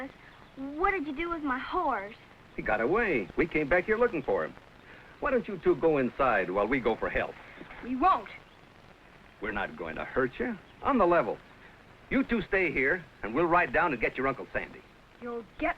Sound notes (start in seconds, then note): none